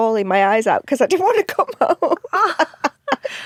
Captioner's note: laughs